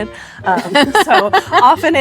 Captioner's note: laughs